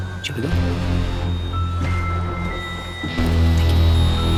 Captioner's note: sirens